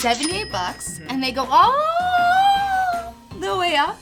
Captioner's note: in high pitch